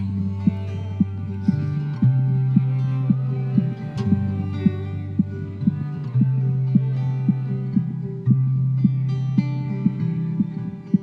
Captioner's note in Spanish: Latido del corazón